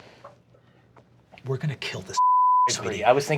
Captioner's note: beeping